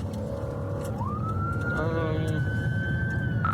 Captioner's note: siren wailing